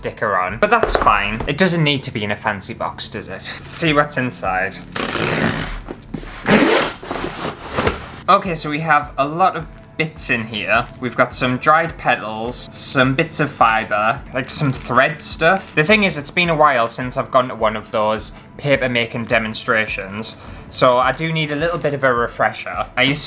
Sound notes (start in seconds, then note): 4.9 cardboard Ripping